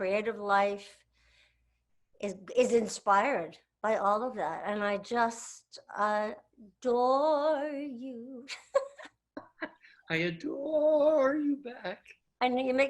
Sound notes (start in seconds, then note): 9.0 laughs